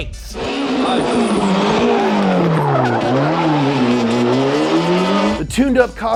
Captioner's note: engine roaring, brakes squealing